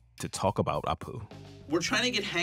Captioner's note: soundbite of archived recording